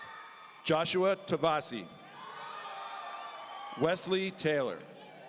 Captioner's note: audience cheering